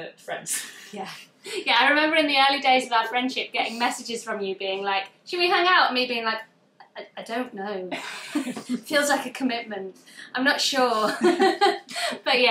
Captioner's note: laughs